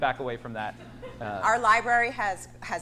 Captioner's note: audience laughs